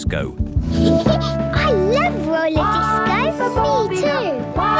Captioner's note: Peppa laughing; trumpeting